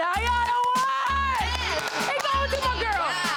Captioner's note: claps; groans